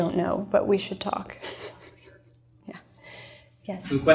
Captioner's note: laughs